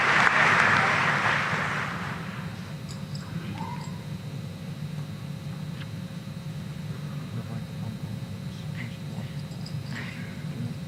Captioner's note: applause